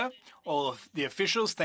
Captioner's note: speaking French